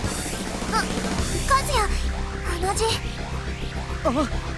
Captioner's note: gasp